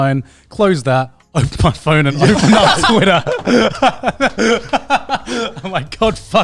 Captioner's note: laughing